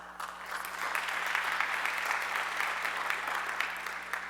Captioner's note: audience clapping